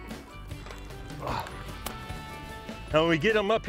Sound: grunting

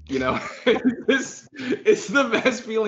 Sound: laughs

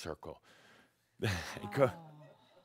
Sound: sighing

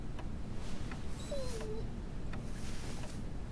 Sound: whines

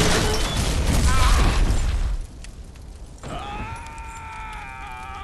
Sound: character screaming

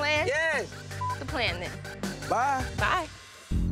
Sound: beep

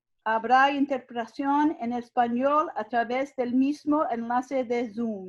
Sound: speaking in foreign language

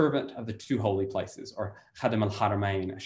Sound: in foreign language

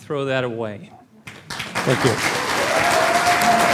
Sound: applause

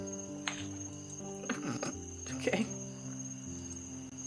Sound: snorts

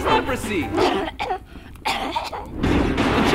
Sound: coughing

